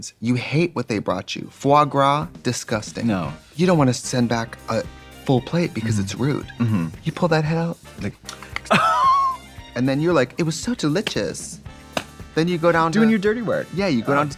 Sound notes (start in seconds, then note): 8.3 imitates clippers; 8.4 Katya laughing